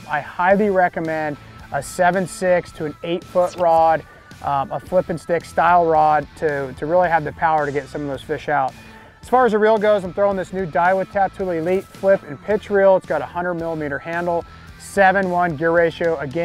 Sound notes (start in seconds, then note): none